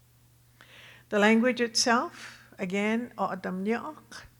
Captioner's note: speaking Tohono O'odham